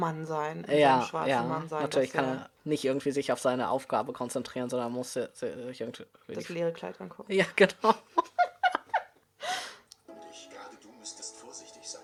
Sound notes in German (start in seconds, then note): 6.7 ironie; 7.9 beide lachen; 10.1 fetzige musik